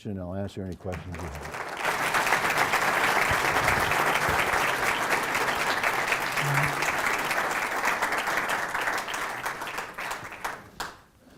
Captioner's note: applause